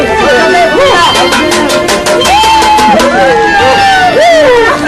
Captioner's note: hooting; pot clanging